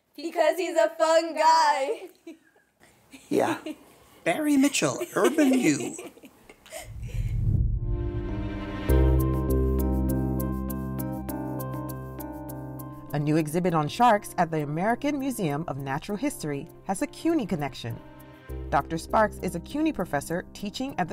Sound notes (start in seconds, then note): 4.6 laughing; 4.6 laughs